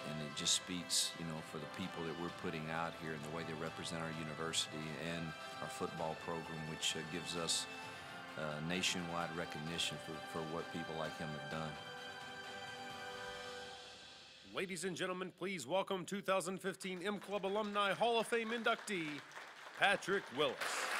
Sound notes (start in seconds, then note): 14.6 voiceover; 20.8 crowd applauds